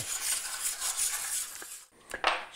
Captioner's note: metal-on-metal scraping